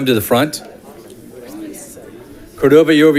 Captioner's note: crowd chatting